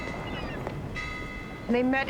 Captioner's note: buoy ringing